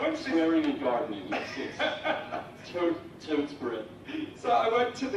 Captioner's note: laughing